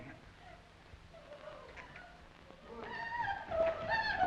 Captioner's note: woman sobbing